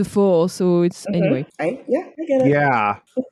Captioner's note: butch-voice